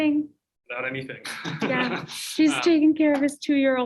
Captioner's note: laughter